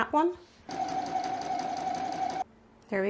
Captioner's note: sewing machine noises